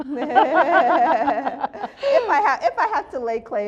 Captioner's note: both laughing